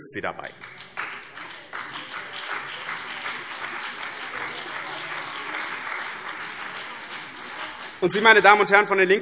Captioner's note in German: Beifall BÜNDNIS 90/DIE GRÜNEN und CDU